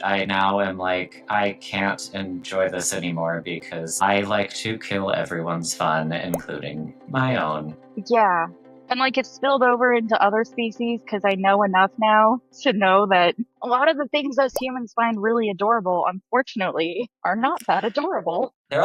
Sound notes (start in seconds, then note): 5.9 graphic blooping